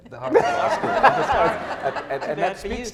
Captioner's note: laughing